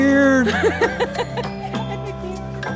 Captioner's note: laughter